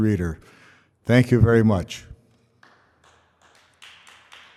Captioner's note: applause